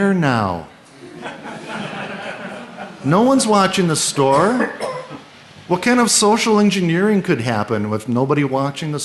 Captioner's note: laughter